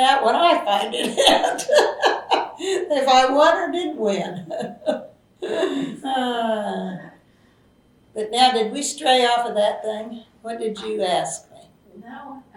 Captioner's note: laughs